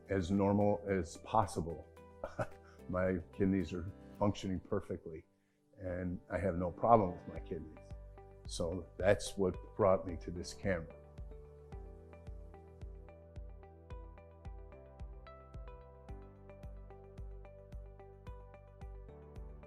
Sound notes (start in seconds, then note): 2.2 chuckles; 11.7 happy light music